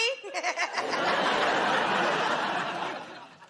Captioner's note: laughter